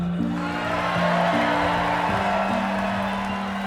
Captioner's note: applause